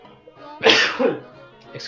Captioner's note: sneezes